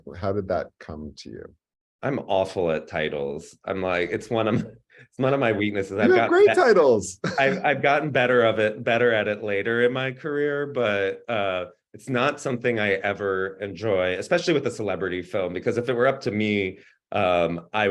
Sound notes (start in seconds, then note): 4.4 chuckles